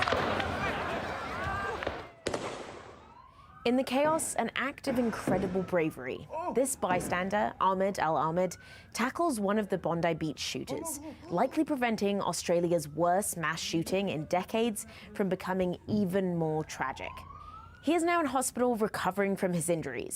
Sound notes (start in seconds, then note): 4.9 gunshots